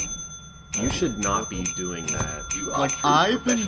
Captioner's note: rampant Ringing and Dinging